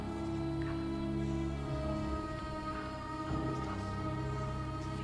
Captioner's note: soft dramatic music; whispering continues